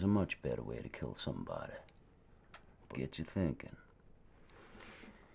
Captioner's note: clicks tongue